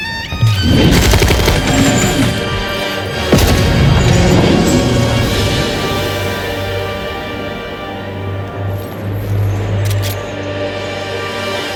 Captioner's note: more Gunfire